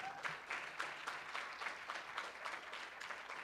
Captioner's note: room applauds